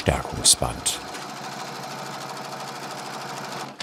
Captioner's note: the sewing machine whirs